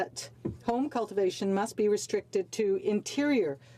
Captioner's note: speaking French